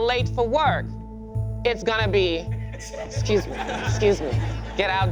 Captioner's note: class laughing